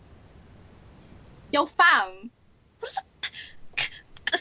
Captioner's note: stuttering